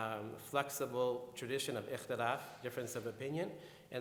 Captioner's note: speaking in foreign language